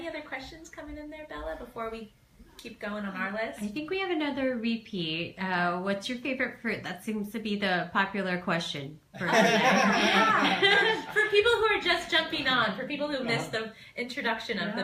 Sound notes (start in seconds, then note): 9.2 laugh